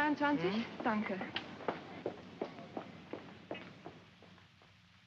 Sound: Frederica's footsteps

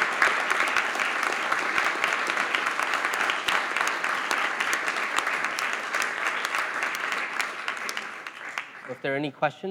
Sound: applause

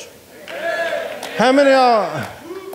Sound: audience cheering

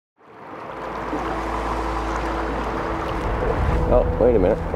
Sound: water rushing

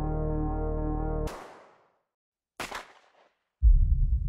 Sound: gun shots

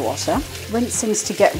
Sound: running water

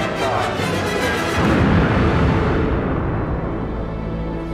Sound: explosion

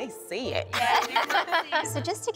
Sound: laughter

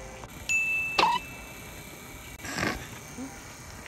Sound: phone pings

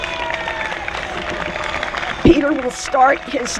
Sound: applause

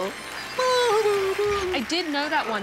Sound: laughs

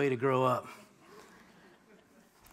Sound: laughter

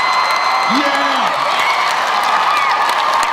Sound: crowd cheers

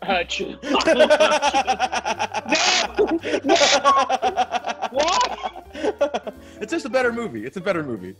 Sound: laugh

